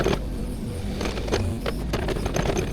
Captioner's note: machinery whirring